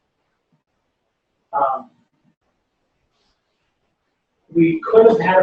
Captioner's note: pause